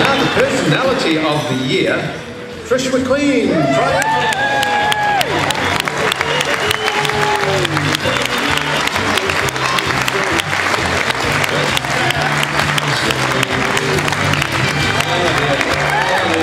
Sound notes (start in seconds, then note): 3.6 cheering and clapping